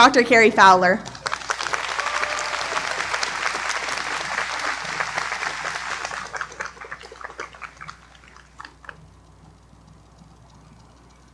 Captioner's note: applause